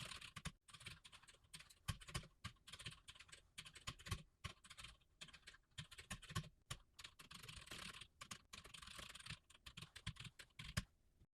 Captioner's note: typing sounds